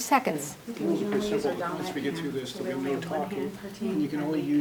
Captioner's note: group chatter